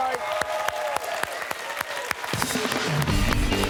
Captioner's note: cheers and applause